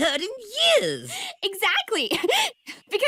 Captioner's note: giggles